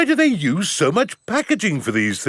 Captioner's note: none